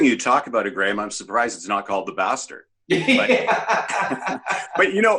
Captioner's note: laughs